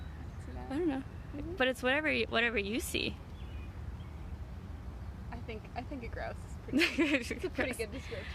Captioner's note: laughter